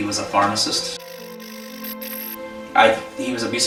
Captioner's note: static fizzing